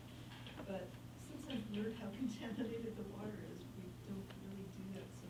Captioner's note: faintly speaking